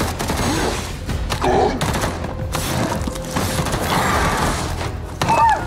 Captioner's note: gunshots roaring